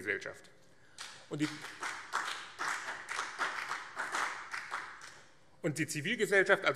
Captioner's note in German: Beifall BÜNDNIS 90/DIE GRÜNEN und CDU